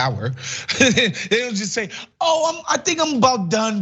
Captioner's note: laugh